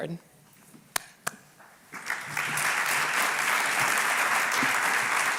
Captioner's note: applause